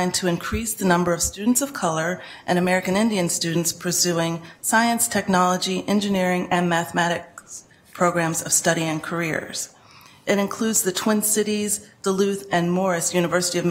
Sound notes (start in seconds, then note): none